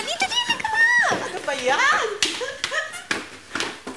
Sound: giggles

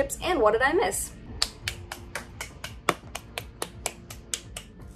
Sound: applauds

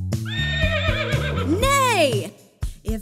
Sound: horses whinny

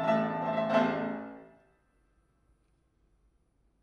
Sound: playing stops

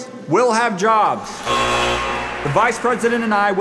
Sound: machine buzzes

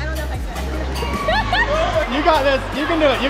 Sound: laughing

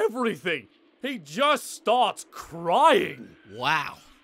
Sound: crying

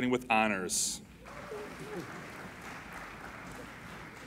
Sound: applauding

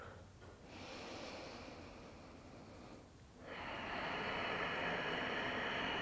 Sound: exhaling; inhaling and exhaling

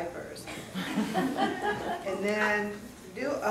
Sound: class laughing

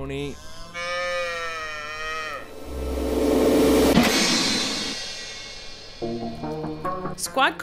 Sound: Tony moos; music Crescendos

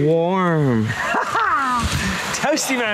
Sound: laughing

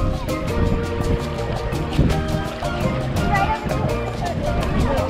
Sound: water splashing

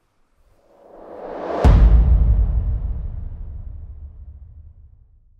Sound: logo whooshing

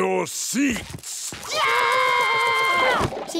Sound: screaming

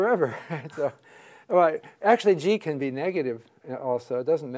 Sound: laugh

